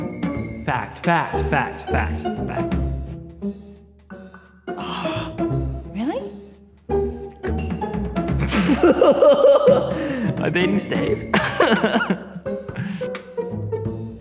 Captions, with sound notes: Fact! Fact, fact, fact! Fact. Fact. Ohhhhh! Really? C'mon! [Laughter] Am I beating Steve? [Laughter]